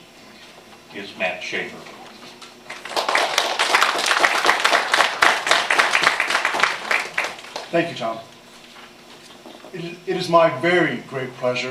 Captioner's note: applause